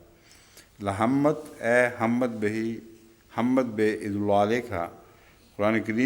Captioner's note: Arabic